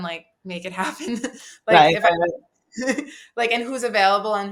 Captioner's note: chuckles